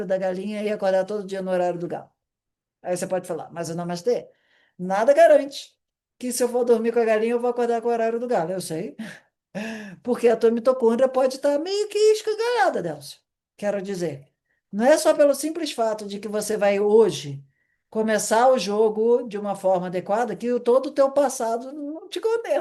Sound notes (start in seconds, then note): 9.5 sighing